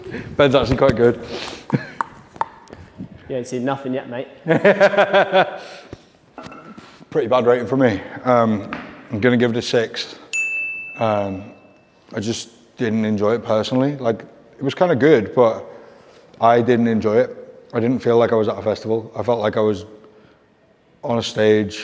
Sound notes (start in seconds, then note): 4.4 laughs; 10.3 bell dings